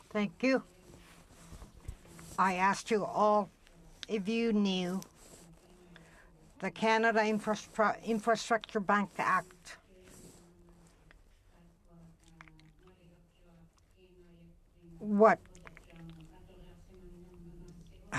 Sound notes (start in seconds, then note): 4.3 speaking French